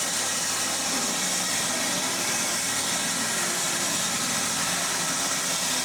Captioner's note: saw whirring continues